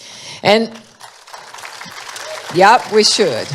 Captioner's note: applause